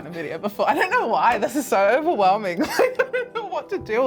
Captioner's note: laughs